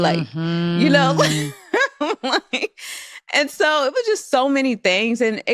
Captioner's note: laughs